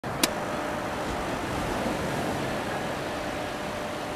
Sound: beach sounds

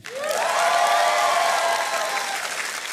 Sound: cheering and applause

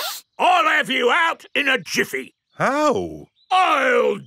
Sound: sniffs

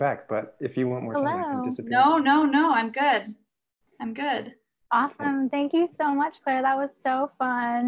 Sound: laughs

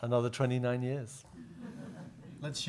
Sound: audience laughing

